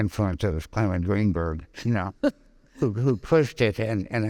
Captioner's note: laughing